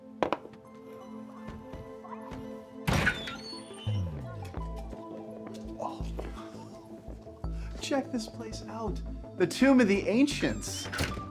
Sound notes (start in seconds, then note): 0.2 eerie music; 2.8 door squeaks